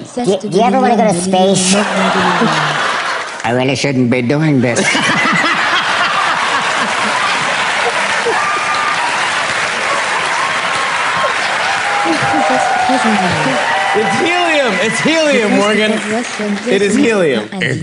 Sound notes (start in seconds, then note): 1.6 audience laughs; 4.8 laughs